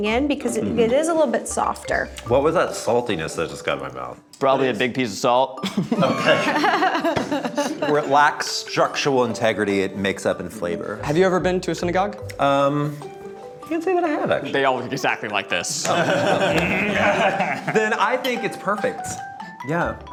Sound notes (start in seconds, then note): 5.7 laughing; 15.8 group laughing